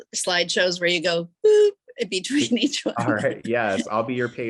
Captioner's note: chuckles